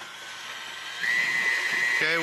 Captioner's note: whirring